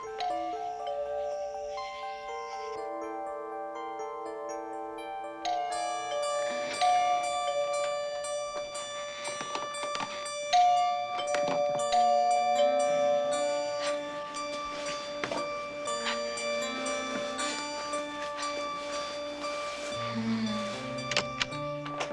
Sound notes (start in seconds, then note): 0.0 doorbell rings; 5.5 ring; 10.5 ring